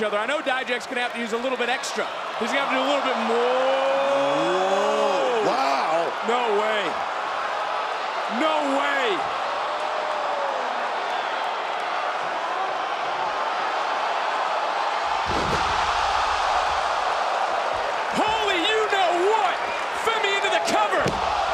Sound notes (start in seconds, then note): 10.2 crowd cheers; 15.2 mat thuds; 16.5 crowd cheers